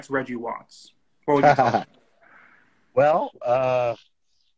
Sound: Reggie laughs

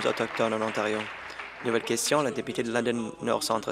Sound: applause

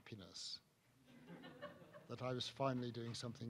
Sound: audience chuckles

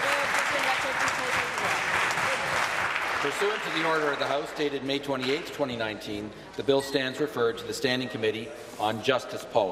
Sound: applause

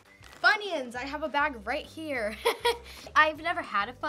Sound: laughs

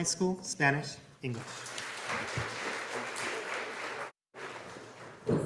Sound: audience applauding

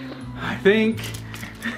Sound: laughs

